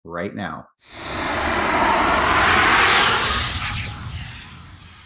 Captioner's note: smoke whooshing